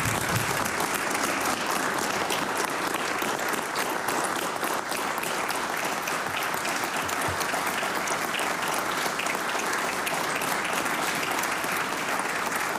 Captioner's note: applause